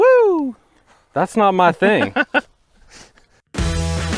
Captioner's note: laughs